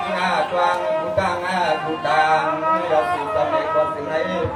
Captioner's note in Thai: ปรบมือ